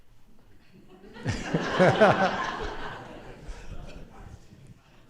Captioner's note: laughter